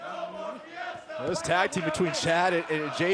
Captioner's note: fans chanting